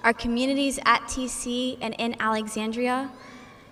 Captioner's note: none